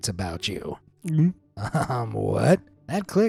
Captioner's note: gulps